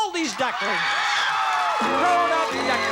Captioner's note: audience shouting